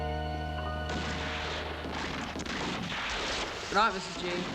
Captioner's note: gunfire on TV